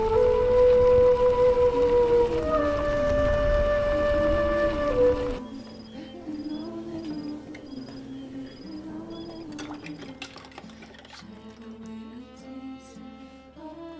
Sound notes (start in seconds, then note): 9.2 sounds of dishes washed in water